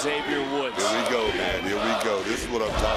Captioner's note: crowd chants "kofi"